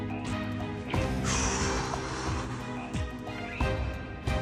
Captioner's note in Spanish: exhala